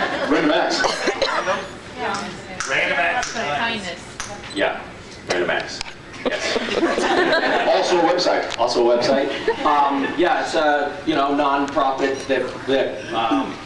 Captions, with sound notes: Random acts? Random Acts. Random Acts of Kindness. Yeah, Random Acts, yes. [scattered laughs] Also a web site. [scattered laughs] Also a web site. Um yeah, it’s uh... you know, non-profit that -- that um...